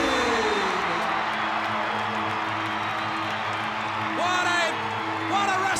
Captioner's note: audience applauds and cheers